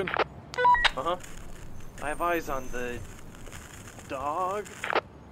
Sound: walkie talkie

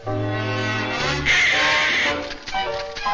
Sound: Daffy yells

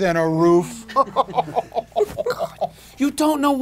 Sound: laughing

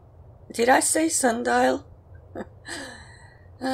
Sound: chuckles

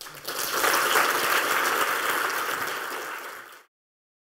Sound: applause

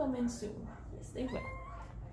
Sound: mew

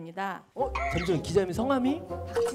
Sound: surprised

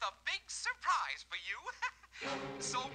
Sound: laughing

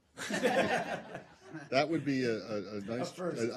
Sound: laughter

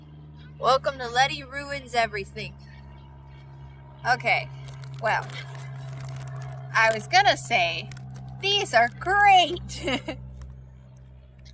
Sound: laughs

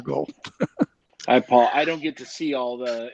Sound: laughs

